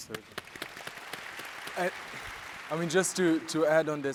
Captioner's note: audience applauds